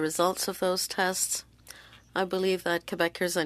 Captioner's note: speaking French